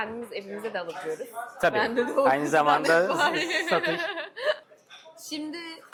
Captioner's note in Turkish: kahkaha